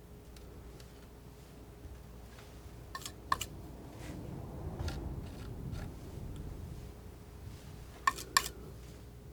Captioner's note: scraping